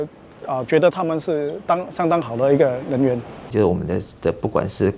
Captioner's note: Taiwanese